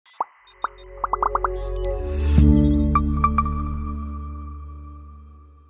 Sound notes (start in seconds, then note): 0.2 bubbles popping; 0.4 robot chittering; 2.3 bright ambient music